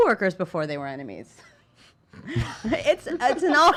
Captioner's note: laughing